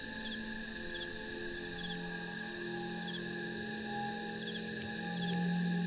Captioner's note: fire Crackling Continues; ominous Music Plays